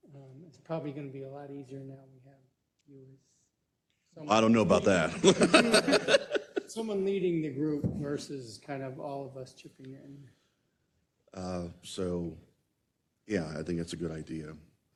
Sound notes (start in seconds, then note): 4.8 laugh